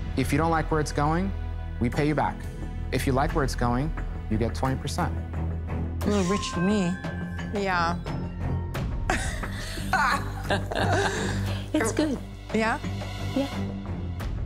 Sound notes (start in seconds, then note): 9.1 laughter